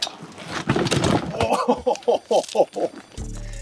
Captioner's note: logs falling